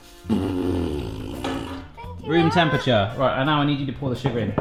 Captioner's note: blowing raspberries